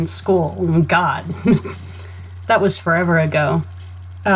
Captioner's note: laughs